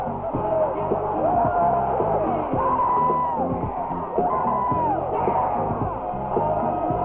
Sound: cheers and applause

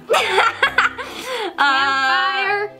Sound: laughs

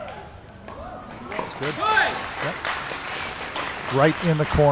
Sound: audience applauding

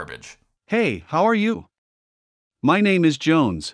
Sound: text-To-Speech Male Voice

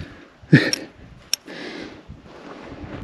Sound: laughes

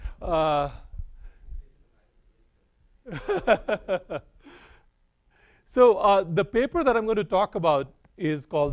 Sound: laughs

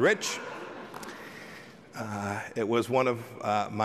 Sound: laughter

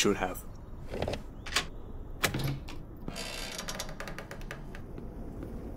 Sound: lock clicks

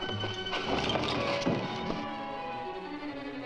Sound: bodies thudding

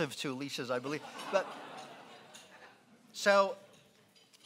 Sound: laughing

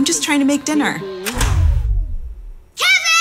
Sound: power clicks off

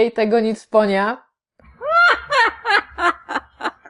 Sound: Arthur laughing

